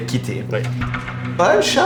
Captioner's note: door opens